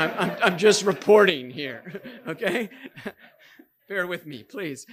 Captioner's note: audience laughing; chuckling